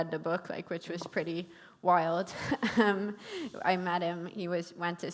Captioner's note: chuckles